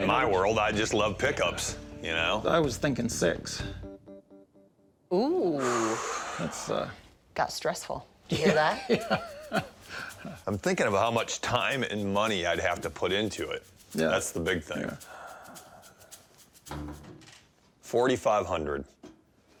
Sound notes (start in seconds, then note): 5.2 sighs